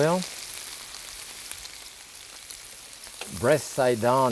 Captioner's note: pan sizzling